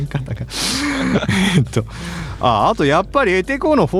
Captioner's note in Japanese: 笑い; 鼻息